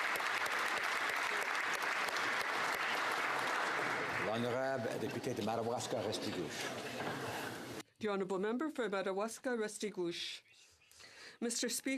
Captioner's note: applause